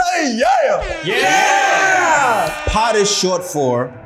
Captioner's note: bullhorn blaring